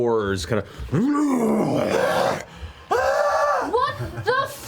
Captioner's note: yells